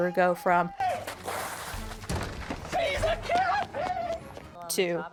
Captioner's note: screaming